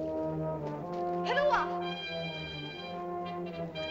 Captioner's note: ominous music; girl speaks in caveman language; suspenseful music